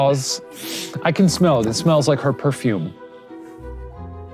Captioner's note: sniffs